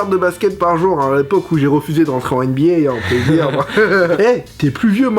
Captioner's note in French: rire